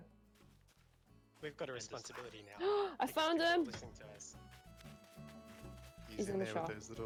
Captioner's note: gasps